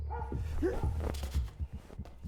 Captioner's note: person thuds; person gasps